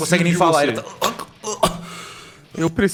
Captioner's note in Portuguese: engasgos